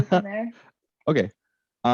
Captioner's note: laughs